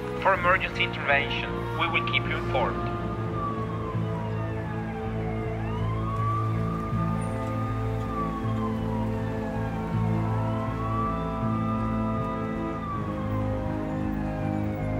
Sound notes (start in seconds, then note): 3.7 sirens wail; 3.7 somber instrumental music